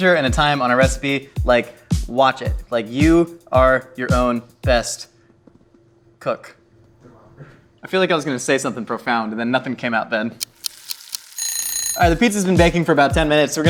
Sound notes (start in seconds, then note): 10.4 pizza sizzling; 10.4 timer ticking; 10.4 timer ringing